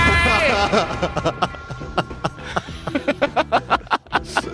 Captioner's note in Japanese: 笑い